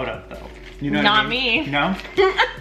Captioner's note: laughs